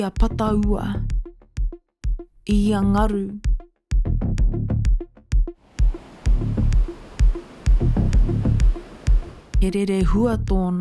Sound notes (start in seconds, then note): 5.6 ocean rushing